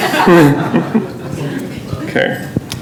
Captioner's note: laughter